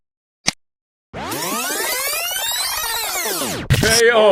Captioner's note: rewind sound